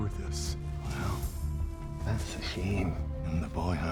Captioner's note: scottish accent